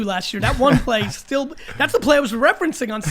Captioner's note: Allen laughs